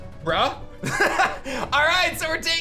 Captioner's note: laughs